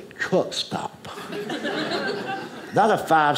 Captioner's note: audience laughing